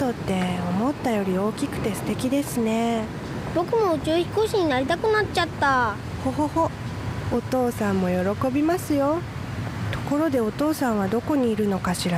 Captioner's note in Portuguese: ÁUDIO DO JOGO: falando em japonês